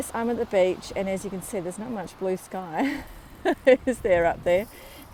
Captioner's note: laughs